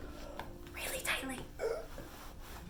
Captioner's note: gasps for air